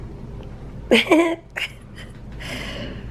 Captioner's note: chuckling